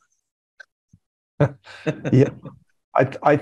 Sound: laugh

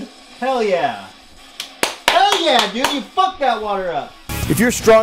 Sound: claps

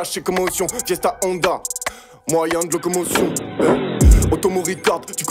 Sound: biker style fx

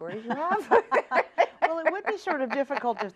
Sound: laughs

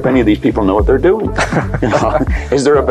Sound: laughing

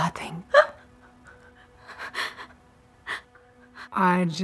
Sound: Lili cries softly

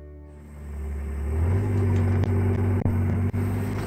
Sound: engine revving

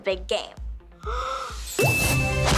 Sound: gasping

